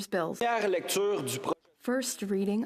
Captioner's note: speaking in French